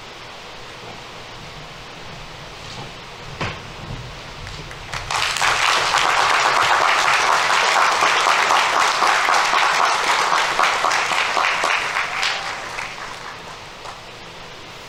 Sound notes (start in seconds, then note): 5.1 audience applauding